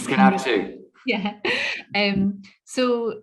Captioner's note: laughs